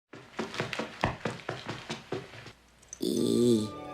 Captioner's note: footsteps plodding; inspiring music